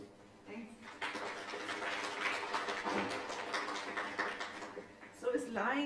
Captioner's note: applause